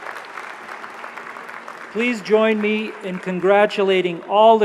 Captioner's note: applause